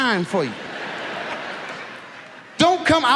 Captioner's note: audience laughs